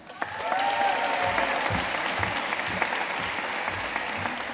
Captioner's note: audience cheering and applauding